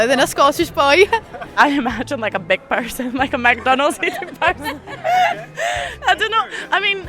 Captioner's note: laughs with friends